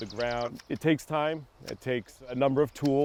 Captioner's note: shears clipping